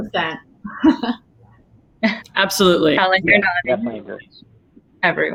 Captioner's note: laugh